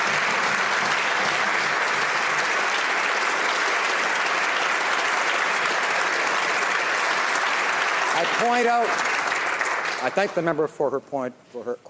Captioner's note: some Applause